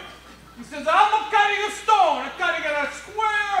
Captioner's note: with Italian accent